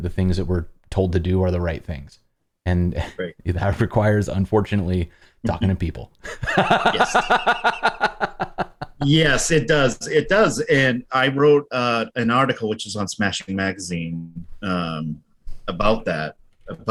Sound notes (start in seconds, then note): 6.2 laughter